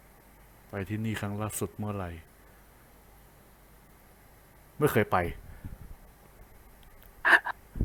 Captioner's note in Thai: แอบหัวเราะ